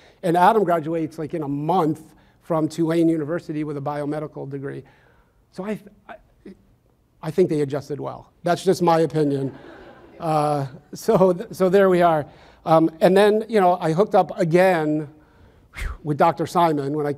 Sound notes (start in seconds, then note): 9.3 audience laughs